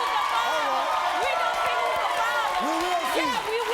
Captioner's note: audience cheers